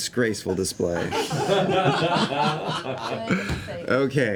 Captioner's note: laughter